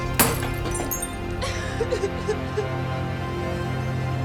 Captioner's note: sobbing